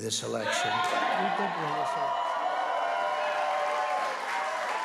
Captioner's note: cheering and applause